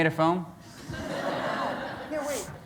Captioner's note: laughter